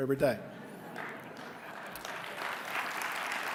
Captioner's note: audience laughing; applause